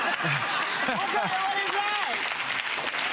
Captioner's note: spectators laughing; spectators clapping